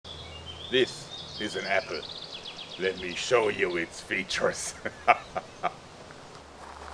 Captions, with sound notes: This is an apple. Let me show you its features! (Devious laughter)